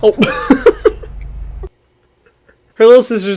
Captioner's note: laughs